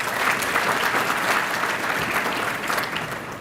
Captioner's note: applause